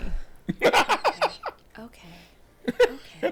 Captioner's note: laughing